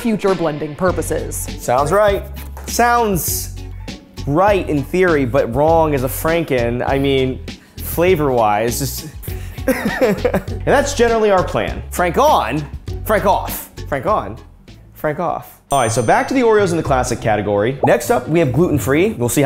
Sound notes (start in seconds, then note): 9.6 laughing